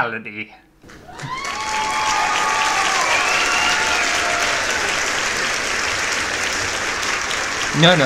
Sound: applause & Cheering

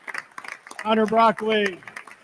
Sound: attendees continue applauding

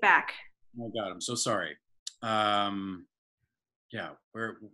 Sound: several voices

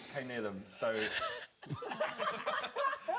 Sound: laughter

